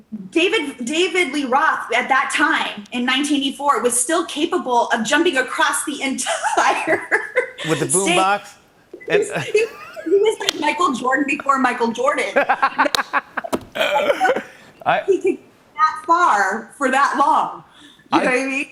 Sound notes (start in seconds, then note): 9.2 both laugh; 12.3 laughing